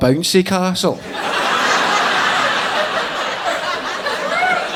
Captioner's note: audience laughing